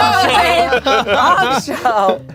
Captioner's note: everyone laughs